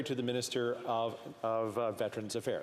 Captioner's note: speaking French